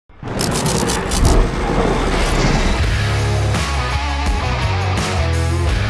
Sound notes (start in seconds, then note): 0.2 lightning cracking; 0.2 thunder rumbling; 2.8 upbeat rock music